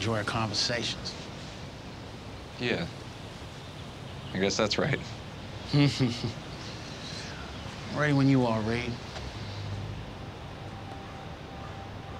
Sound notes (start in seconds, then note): 5.6 laughs